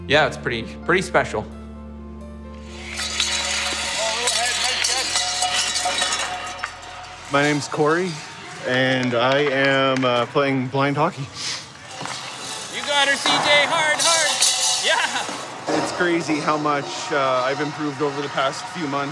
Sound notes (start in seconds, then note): 2.6 metal clanging